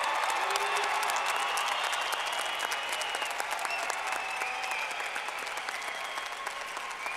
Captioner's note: clapping